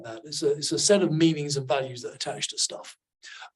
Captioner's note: none